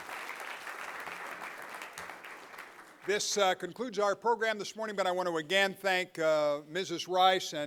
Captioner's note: applause